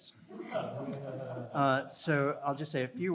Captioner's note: audience laughing